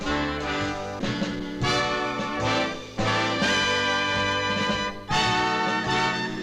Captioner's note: none